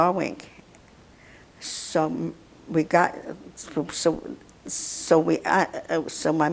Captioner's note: mumbling